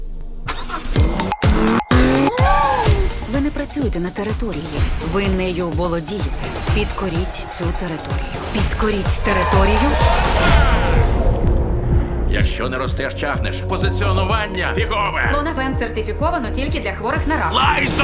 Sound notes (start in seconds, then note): 0.2 engine revving; 2.0 exclaims; 9.9 cheering